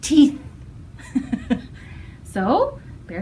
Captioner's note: laughter